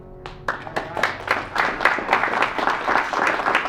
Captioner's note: audience applauds